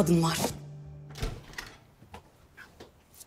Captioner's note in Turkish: Kapı Açılıyor